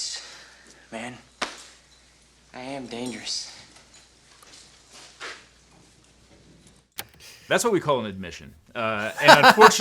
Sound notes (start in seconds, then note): 4.7 teeth chatter